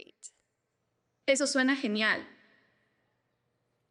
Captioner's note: speaking spanish